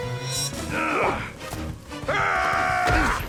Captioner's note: grunting